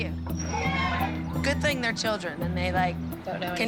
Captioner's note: girls cheer